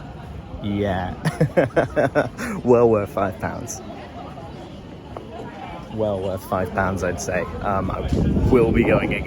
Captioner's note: laughter